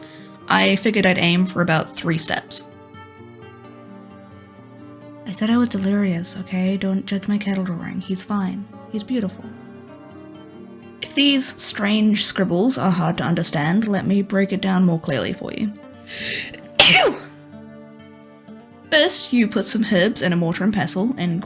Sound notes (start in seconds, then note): 16.6 achoo